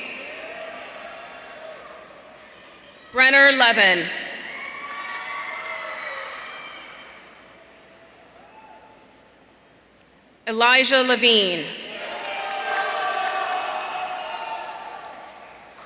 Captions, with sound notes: Brenner Levin. (audience cheering) Elijah Levine. (audience cheering)